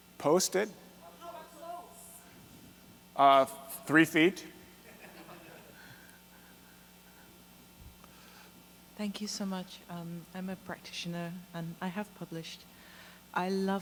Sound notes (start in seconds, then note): 1.6 voiceover; 4.8 laughter; 9.3 voiceover